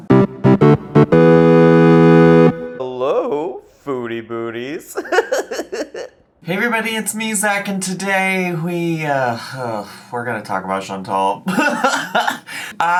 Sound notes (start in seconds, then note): 0.0 upbeat intro sound; 4.8 laughs; 11.4 laughs